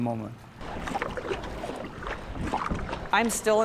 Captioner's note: paddling through water